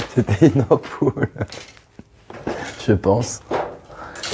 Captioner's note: laughter